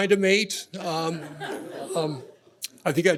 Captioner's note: laughter